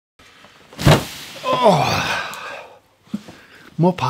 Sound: groans

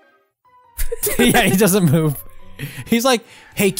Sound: both Laughing

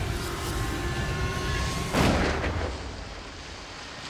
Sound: gunshot

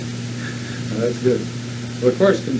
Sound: laughs

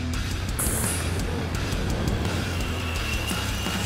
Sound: wheels rolling

